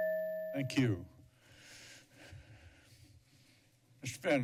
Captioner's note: breathes heavily